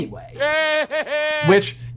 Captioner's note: Voldemort laughs